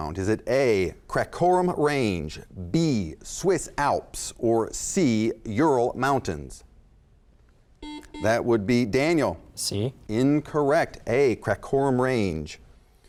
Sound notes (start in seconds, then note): 7.8 buzzer